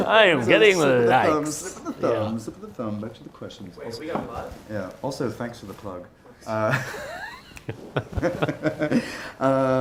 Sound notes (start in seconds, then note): 6.8 laughs